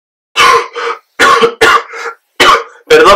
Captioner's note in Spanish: Dani tose